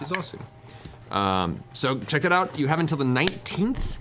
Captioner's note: normal voice